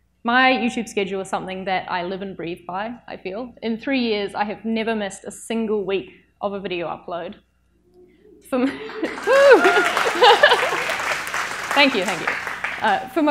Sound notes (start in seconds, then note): 8.6 audience applauds